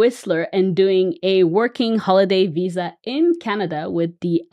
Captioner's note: none